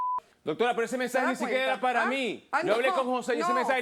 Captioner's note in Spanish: Bip